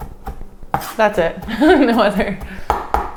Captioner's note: laughs